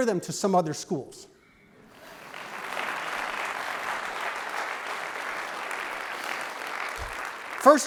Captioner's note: clapping